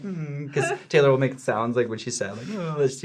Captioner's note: whines; whines